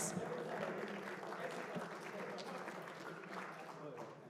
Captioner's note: applause